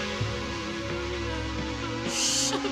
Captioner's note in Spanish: Clara solloza